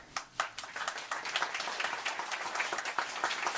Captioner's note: applause